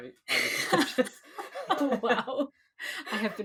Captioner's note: laughs